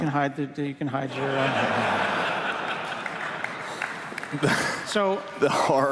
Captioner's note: laughter